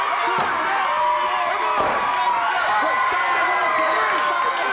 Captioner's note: audience cheers